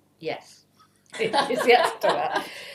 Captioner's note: laugh